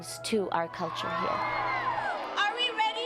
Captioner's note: audience cheers